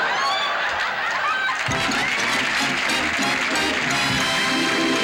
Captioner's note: applause